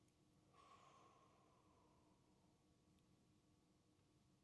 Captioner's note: exhales